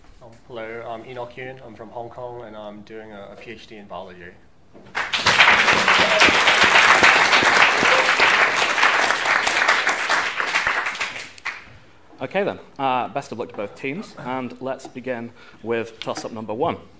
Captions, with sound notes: Hello, I'm Enoch Yuen, I'm from Hong Kong, and I'm doing a PhD in biology. (applause) OK, then. Best of luck to both teams, and let's begin with tossup number 1.